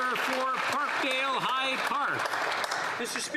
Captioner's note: some Applause